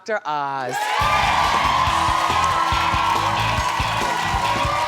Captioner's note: audience screaming